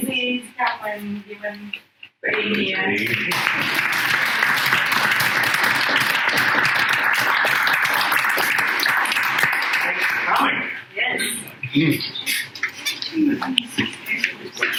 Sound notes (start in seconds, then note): 5.1 clapping